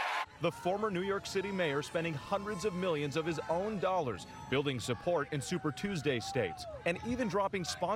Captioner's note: applause